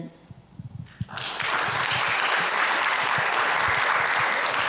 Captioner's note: audience applauds